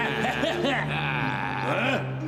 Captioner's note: laughing